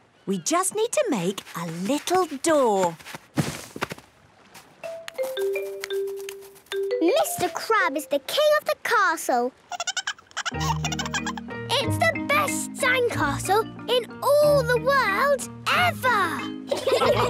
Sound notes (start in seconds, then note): 9.8 giggling